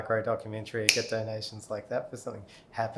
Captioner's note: fingers snapping